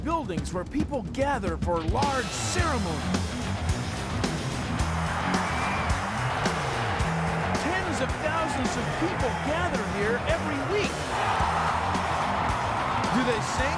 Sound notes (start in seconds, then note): 5.2 <i> crowd roaring</i>; 12.1 <i> cheering</i>